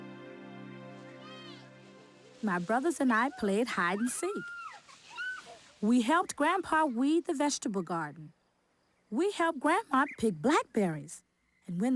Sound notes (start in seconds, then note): 0.8 children yelling and playing